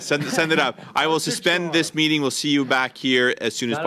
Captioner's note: laughter